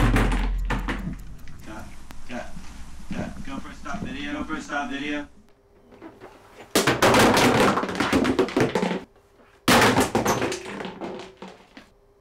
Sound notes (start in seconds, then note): 6.8 plastic clattering